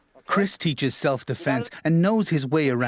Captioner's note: voiceover